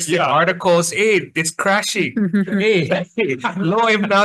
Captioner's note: chuckles; laughs